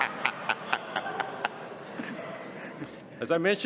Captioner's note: laughter